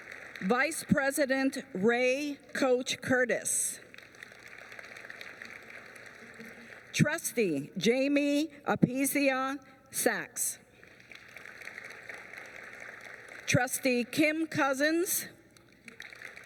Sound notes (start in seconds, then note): 3.0 applause; 10.6 applause